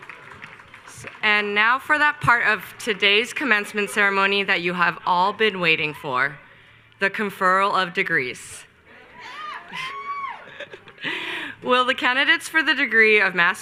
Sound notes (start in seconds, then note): 8.9 graduates cheer; 8.9 laughs